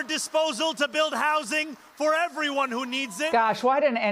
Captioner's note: cheers